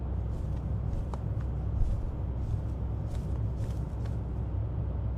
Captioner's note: cords rustling continues